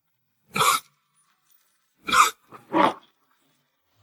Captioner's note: cough, cough, cough